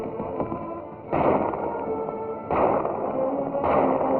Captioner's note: gunshots